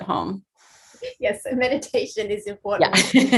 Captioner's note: laughing; laughs